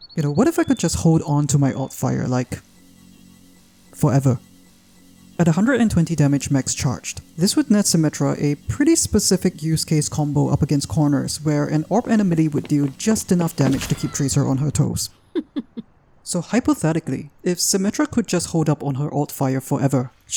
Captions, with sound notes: You know, what if I could just hold onto my alt-fire like... Forever...? At a 120 damage max charged, this would net Symmetra a pretty specific use case combo up against corners where an orb and a melee would deal just enough damage to keep Tracer on her toes. *Laughs Symmisterly* So hypothetically, if Symmetra could just hold up on her alt-fire forever,